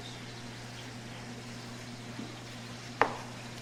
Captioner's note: pan sizzling; knife chops